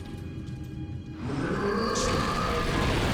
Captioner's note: roar